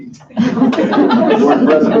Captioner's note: laughing